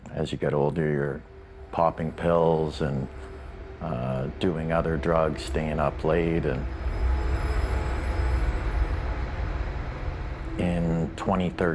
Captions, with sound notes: ...as you get older, you're popping pills and... ...doing other drugs, staying up late and... [ominous screeching sound] In 2013...